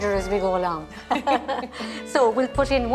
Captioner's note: both laugh